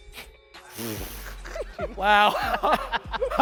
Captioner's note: man laughs